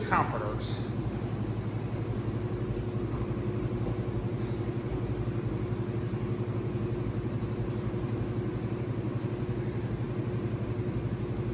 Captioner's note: washers and dryers running